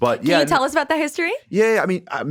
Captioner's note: chuckles